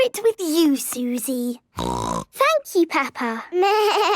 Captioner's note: snorting; bleating